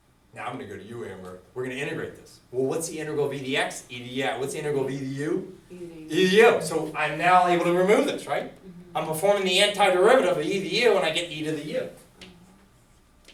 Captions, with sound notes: Now I'm gonna go to you Amber. We're gonna integrate this. What's the integral of EDX? ED yeah... What's the integral of EDU? - [Voiceover] E to the U. - E to the U, so I'm now able to remove this, right? I'm performing the anti-derivative of EDU and I get E to the U,